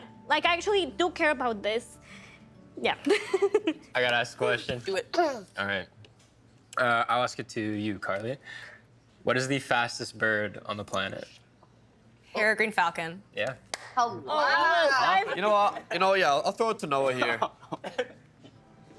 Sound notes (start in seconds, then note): 3.2 laughing; 13.7 clapping